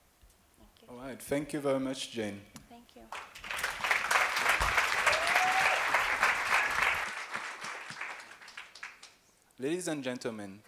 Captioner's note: applause